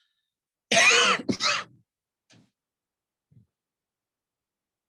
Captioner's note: coughs